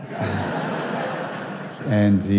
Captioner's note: laughter